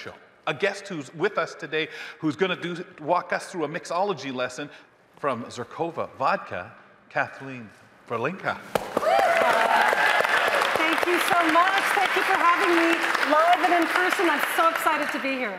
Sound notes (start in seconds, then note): 8.8 audience cheering; 8.8 audience applauding